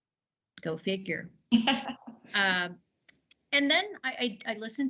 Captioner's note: laughter